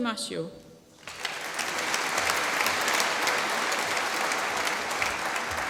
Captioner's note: applause